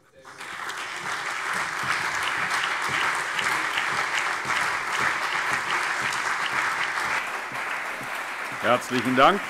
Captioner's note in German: Beifall CDU, BÜNDNIS 90/DIE GRÜNEN, AfD, Freie Demokraten und vereinzelt SPD